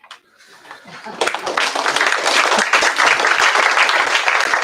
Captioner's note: applause